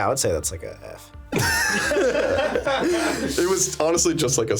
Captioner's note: laughing